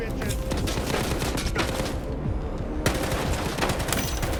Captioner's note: guns blasting